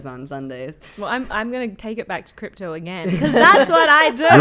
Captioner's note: laughing